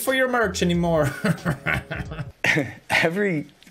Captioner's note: evil laugh